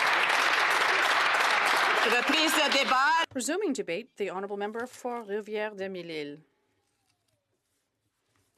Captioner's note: applause